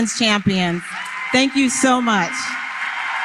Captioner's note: applause